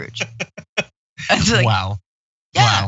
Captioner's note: laugh